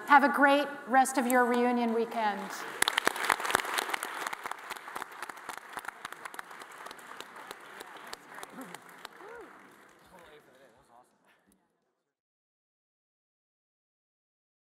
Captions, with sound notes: Have a great rest of your reunion weekend. (all applauding) (panelists chattering)